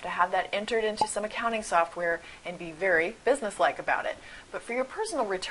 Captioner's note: pop